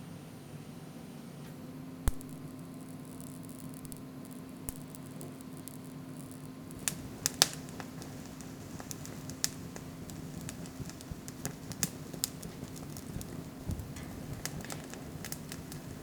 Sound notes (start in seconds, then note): 2.0 taser buzzing; 10.1 flames crackling